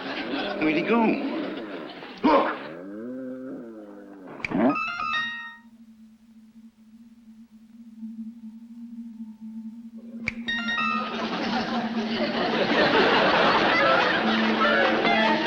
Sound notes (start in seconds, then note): 0.0 audience laughs; 0.0 buffaloes moaning; 4.1 finger snaps; 4.7 whimsical chimes; 10.2 finger snaps; 10.4 whimsical chimes; 12.3 audience laughs